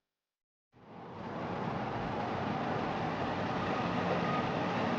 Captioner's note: traffic rumbling